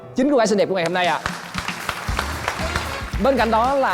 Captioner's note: applause